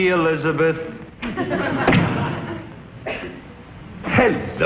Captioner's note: audience laughs